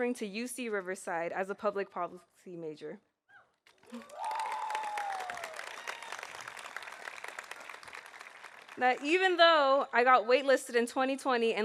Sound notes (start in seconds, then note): 3.7 audience applauding; 3.9 audience cheering